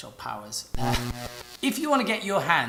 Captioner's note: electricity sparking